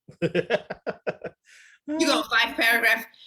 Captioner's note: laughs